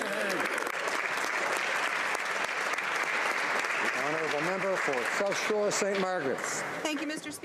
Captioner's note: speaking alternate language